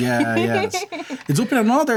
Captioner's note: laughter